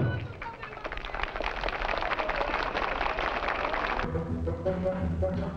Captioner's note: audience clapping; suspenseful music